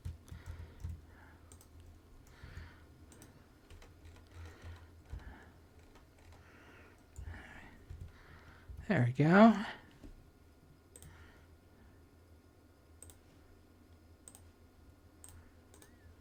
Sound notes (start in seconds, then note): 1.0 silence; 6.1 silence